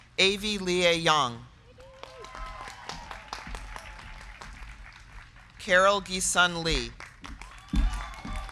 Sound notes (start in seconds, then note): 1.6 crowd cheering; 1.7 crowd clapping; 7.2 crowd cheering; 7.8 crowd clapping